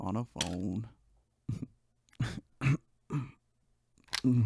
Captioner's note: laughs, coughs